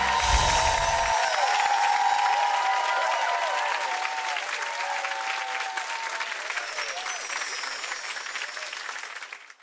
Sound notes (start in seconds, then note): 0.0 bells chime; 3.0 audience applause; 6.2 bells chime